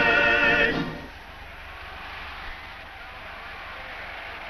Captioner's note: crowd cheers